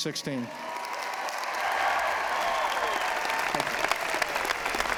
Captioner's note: applause